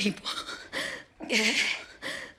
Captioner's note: shuddering breaths, groaning